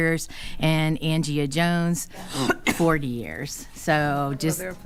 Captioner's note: coughing